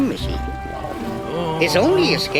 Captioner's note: Finbarr moaning